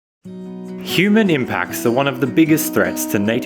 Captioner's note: voiceover